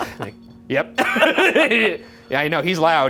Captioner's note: REM pod beeping; laughing